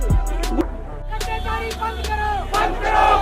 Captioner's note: crowd shouting in Hindi